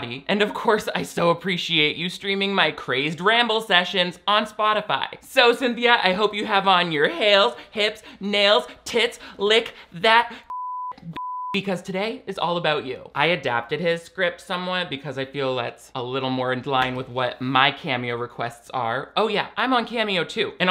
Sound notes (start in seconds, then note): 10.4 beep